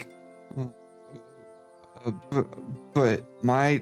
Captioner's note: embarrassed Grumbling